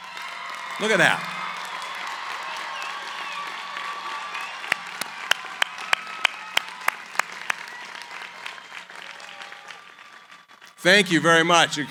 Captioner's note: cheering, applause